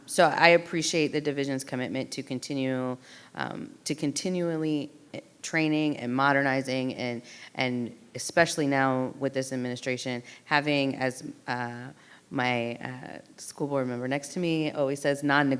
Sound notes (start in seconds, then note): none